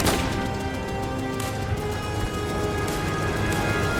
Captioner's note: gunfire continues